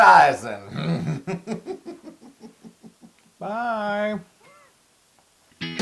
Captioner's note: laugh